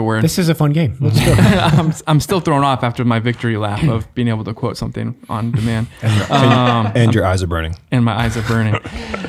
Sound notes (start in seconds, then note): 5.5 men laughing